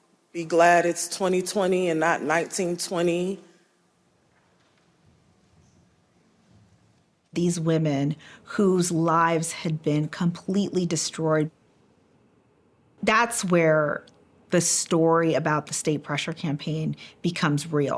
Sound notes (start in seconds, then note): none